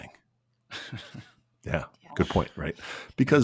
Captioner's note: laughs